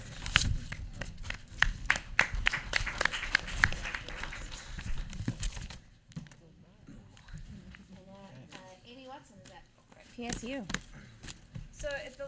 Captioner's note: applause